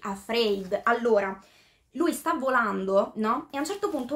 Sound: translating in italian

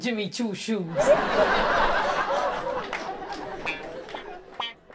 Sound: audience laughs; upbeat music

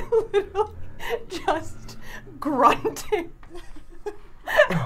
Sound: laughing

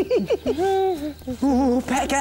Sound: humming

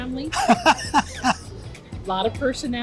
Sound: laughs

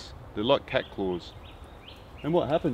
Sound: birds chirp

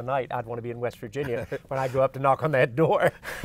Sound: both laugh

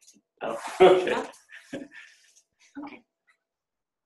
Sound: laughs

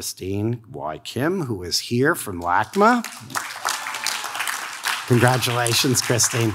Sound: audience claps

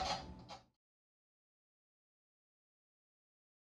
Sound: silence

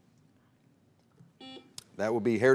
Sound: buzzer beeps

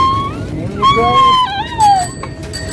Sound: bike bell rings

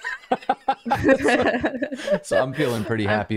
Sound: laughter

